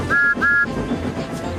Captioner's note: whistle